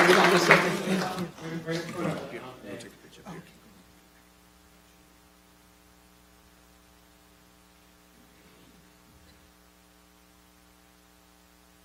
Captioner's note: applause